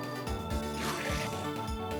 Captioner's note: enderman screams again